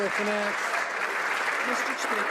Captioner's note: some Applause